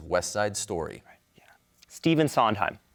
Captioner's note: whispers